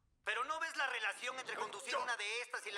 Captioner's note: voiceover